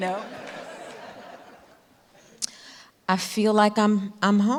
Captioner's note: audience laughing